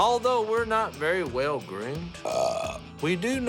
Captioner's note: burps